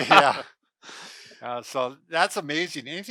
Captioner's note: laughing